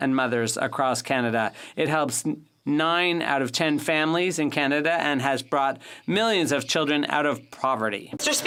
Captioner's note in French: voix de l'interprète